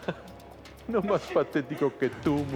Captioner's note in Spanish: Risas